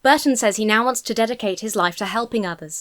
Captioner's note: none